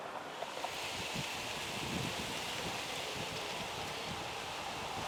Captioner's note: wind gently blowing